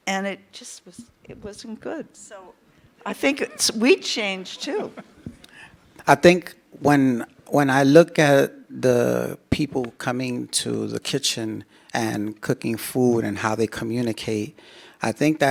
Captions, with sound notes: and it just was, it wasn't good. So I think it's, we changed too. (participant laughs) - I think when, when I look at the people coming to the kitchen and cooking food and how they communicate, I think